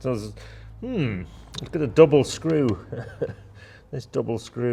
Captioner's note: chuckling